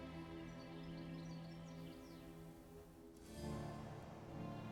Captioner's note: birds singing; soft music